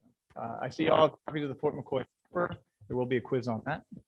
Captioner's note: mic cuts out